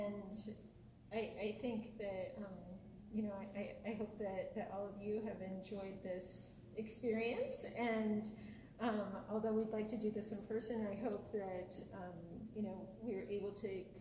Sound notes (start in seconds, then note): none